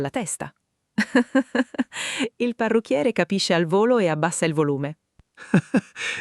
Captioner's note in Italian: Haha